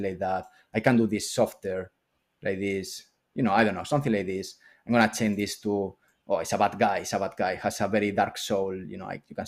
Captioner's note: none